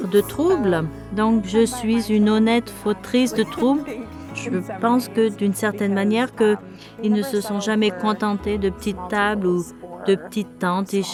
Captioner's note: laughs